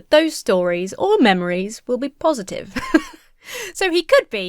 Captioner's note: laughs